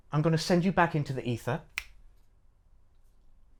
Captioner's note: snaps Fingers